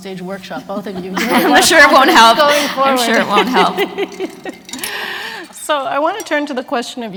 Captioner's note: laughter